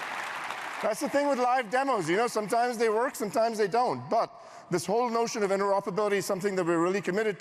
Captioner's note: applause